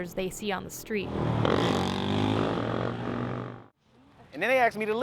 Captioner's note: engine revving